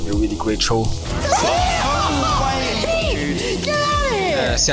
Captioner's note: laughing